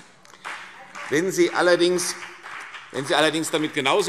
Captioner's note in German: Beifall CDU und BÜNDNIS 90/DIE GRÜNEN